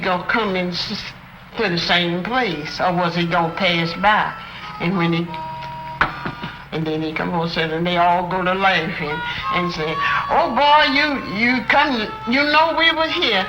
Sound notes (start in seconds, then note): 6.0 knocks three times